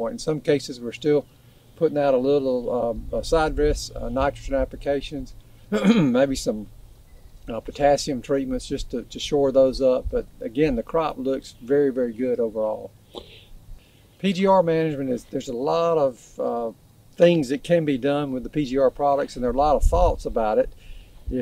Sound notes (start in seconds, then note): 5.7 ahem sound